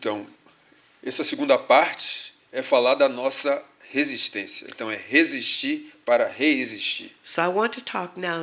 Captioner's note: speaking portuguese